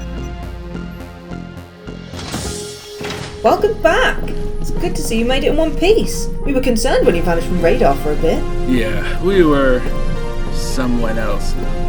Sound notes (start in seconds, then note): 2.2 airlock doors close